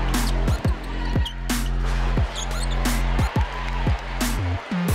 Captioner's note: sneakers squeaking